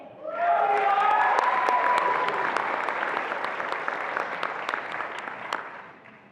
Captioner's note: attendees applauding and cheering